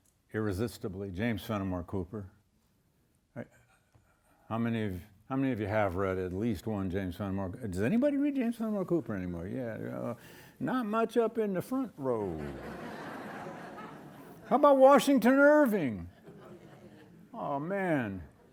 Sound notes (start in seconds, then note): 12.2 audience laughing